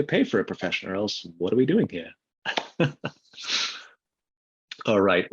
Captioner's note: chuckles